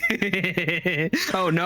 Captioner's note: laughter